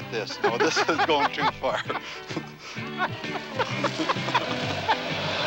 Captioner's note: laughing